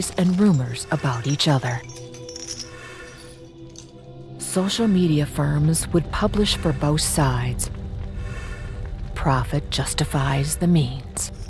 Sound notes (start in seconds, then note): 2.5 chains rattling